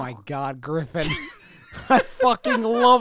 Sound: laughs

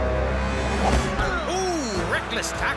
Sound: grunts

